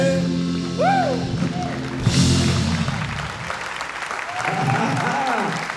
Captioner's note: audience applauds and cheers; laughs